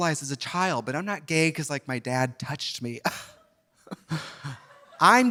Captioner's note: scoffs